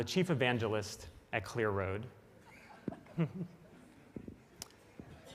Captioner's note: laughing; audience laughs